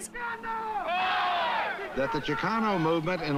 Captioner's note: yelling